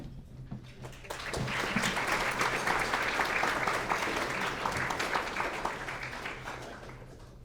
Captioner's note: clapping